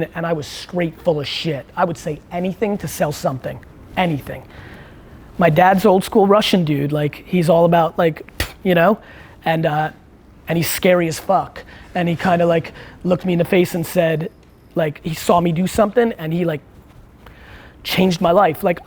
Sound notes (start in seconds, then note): 9.1 spits